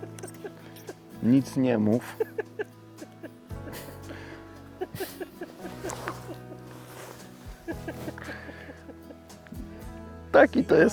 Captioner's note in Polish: śmiech